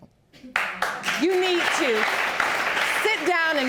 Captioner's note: audience applauding